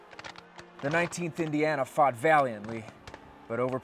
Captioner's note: voiceover